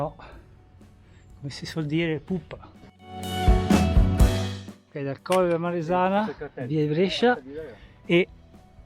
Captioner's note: in dialetto livornese